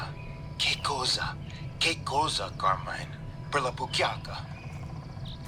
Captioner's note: Lou speaking in Italian